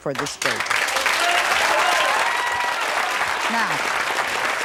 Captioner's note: audience cheering